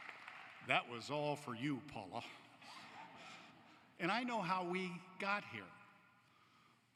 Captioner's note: applause